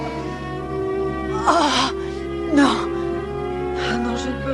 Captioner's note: grunts